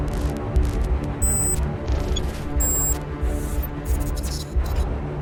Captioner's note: robotic beeps